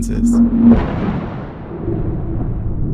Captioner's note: air whoosh; thunder crackling